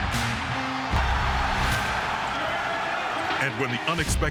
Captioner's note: crowd cheering